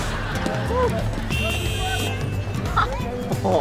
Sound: honking

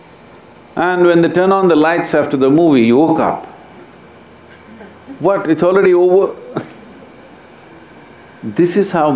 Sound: laughs

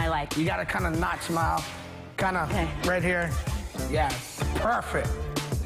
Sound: laughter

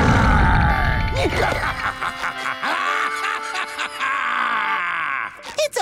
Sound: laughing

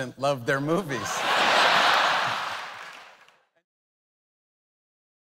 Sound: audience laughs

